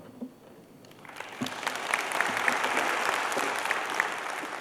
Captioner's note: applause